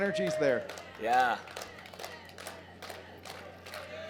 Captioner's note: crowd chanting